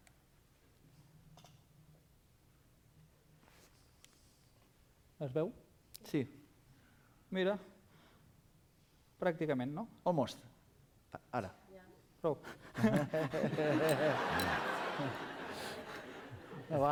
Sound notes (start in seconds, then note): 5.2 non-english speech; 12.6 laughter; 16.3 non-english speech